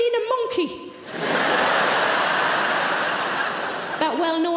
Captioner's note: audience laughing